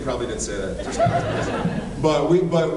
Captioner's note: laughs